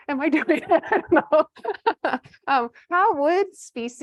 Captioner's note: laughs